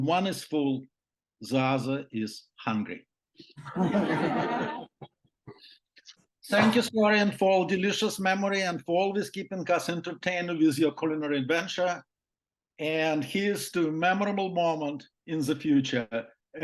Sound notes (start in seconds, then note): 3.6 laughter